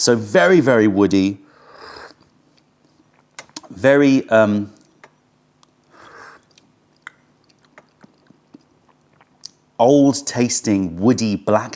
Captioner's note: sips tea